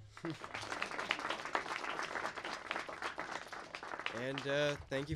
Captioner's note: audience applauding